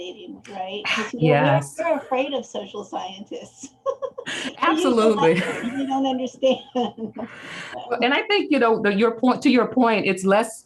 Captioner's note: laughs